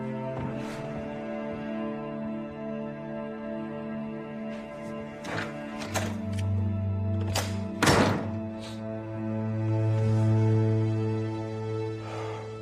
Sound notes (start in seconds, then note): 7.8 thud